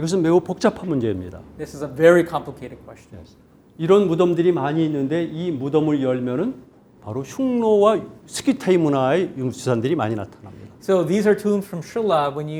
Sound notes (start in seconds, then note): 0.2 speaking in Korean; 4.1 speaking in Korean